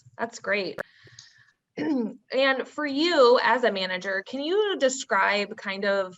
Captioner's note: clears throat